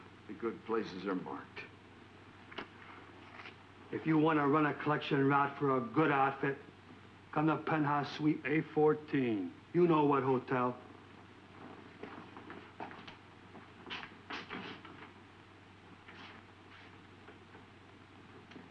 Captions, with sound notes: - Yeah, the good places are marked. - If you wanna run a collection route for a good outfit, come to Penthouse Suite A14, you know what hotel. (footsteps thudding) (door unlatching)